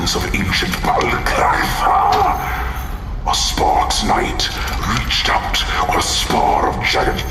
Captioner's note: rattling chains in an attempt to demonstrate